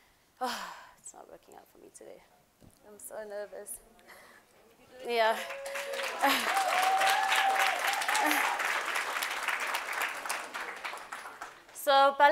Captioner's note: applause